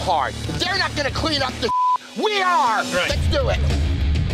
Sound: beep

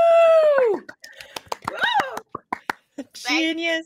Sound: everyone applauding

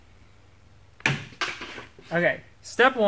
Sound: clunk

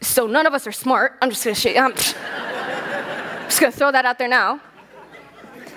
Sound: laughter

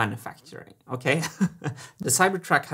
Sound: chuckles

